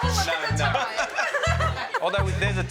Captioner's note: laughter